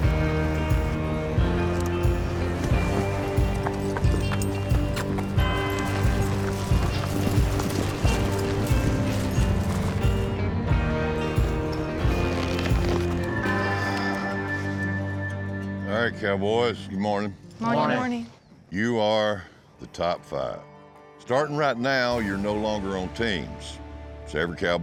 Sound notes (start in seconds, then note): 6.7 hoofbeats